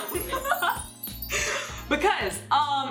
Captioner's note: laughing